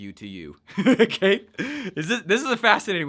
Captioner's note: laughs